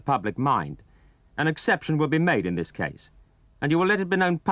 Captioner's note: voiceover